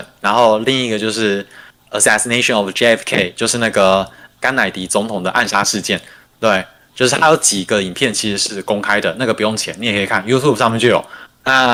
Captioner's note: non-english speech